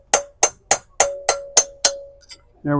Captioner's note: hammer banging